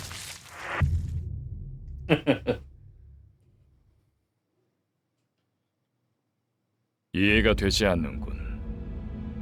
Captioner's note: chuckle